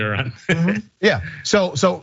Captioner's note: laugh